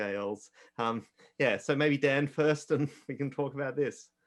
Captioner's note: chuckles